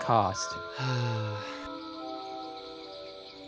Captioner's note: sighs